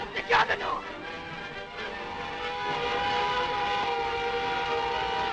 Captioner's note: vehicle buzzing